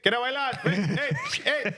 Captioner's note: speaking In Spanish; laughing; speaking In Spanish